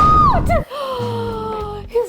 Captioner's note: gasps